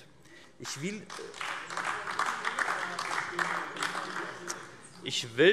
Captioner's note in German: Beifall AfD